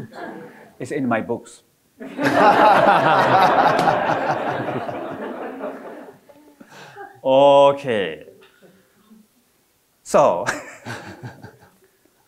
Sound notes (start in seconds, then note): 0.2 audience chuckling; 2.0 all laughing